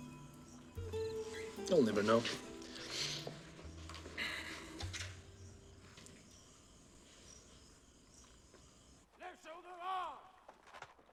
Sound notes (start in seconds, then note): 3.9 sighs